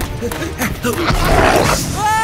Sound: growl

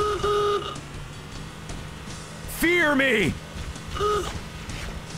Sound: horn honk

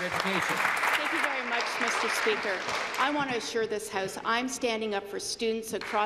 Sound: applause

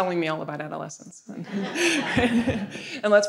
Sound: audience laughing

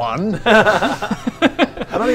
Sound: hopeful laughter

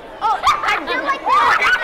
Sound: laughter

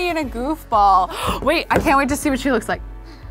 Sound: gasps

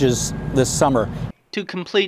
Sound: nat pop - snooper truck sound on bridge

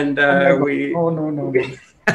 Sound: laughter

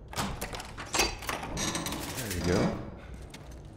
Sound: door creaks

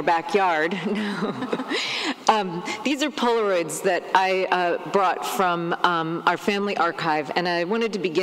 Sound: laughs

